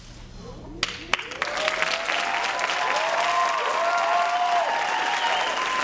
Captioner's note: applause and cheering